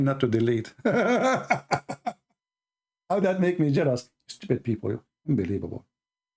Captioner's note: Ketawa